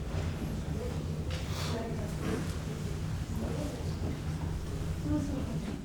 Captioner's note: woman speaking faintly